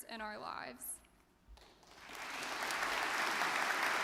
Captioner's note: audience clapping